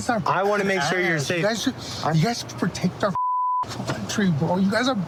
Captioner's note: beep